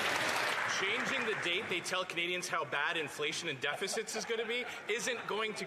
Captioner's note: some Applause